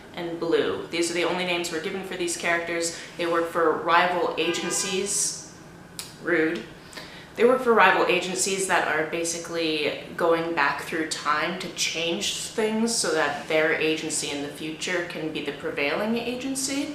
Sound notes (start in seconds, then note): 4.4 car honk